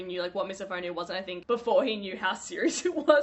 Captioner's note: laughs